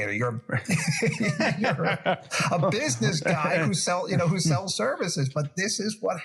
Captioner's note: laugh